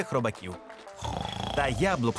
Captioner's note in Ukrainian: хропіння